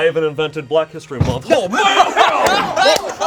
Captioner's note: group laughs